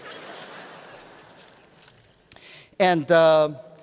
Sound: laughter

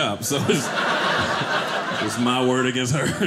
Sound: audience laughing

